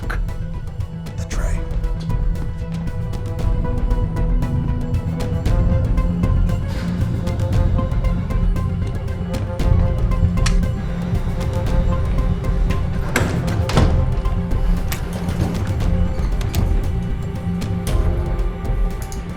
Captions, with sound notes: - Fuck. The tray. (suspenseful music continues) (tray thudding) (door thudding) (elevator door creaking)